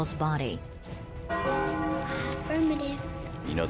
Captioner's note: ominous bells